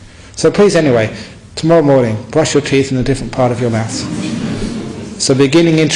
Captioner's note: laughter